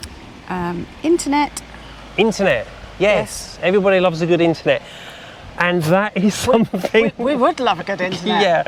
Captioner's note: laughter